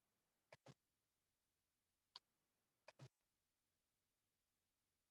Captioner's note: keyboard clicking